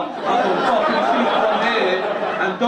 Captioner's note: audience laugh